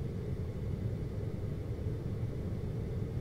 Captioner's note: air conditioning